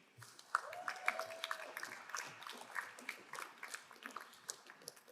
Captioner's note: crowd cheering and applauding